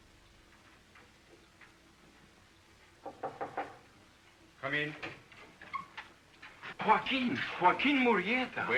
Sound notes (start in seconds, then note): 3.0 knocking at the door; 5.6 door creaks